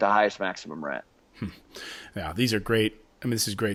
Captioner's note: chuckles